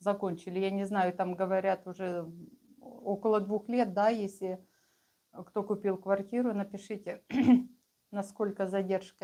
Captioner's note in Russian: откашливается